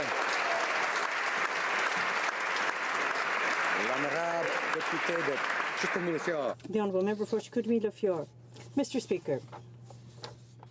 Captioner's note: applause